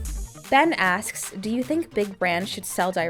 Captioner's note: voiceover